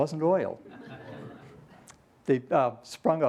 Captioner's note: laughter